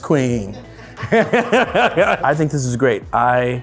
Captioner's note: laughs; crew laugh